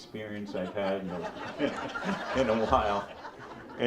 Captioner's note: audience laughs